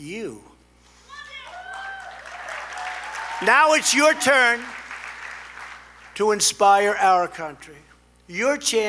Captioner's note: applause